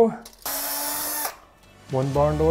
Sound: drilling sound

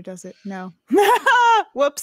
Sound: laughs

